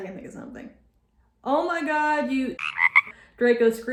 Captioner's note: ribbit